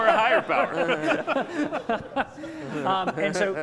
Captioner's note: laughter